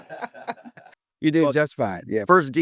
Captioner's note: laughing